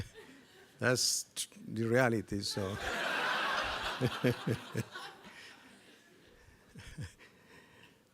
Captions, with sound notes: That's the reality, so-- (chuckles)